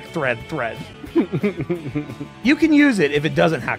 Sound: laughs

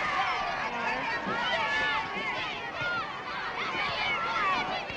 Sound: children shouting

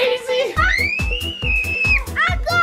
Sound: screaming

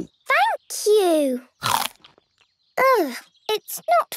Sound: crunch!

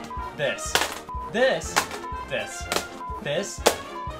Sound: beep

